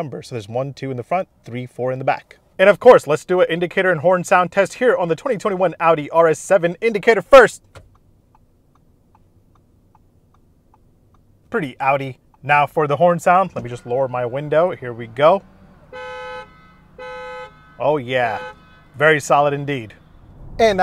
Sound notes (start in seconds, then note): 8.2 car indicator clicking; 16.0 car horn honking